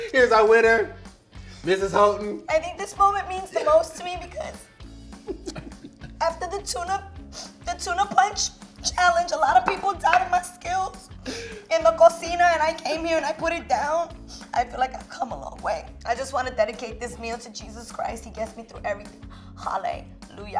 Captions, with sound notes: - Here's our winner. Mrs. Houghton. I think this moment means the most to me because- (laughing) After the tuna, the tuna punch challenge, a lot of people doubted my skills, in the cocina And I came here, and I put it down. I feel like I've come a long way. I just wanted to dedicate this meal to Jesus Christ. He gets me through everything. Hallelujah.